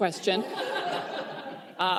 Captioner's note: laughter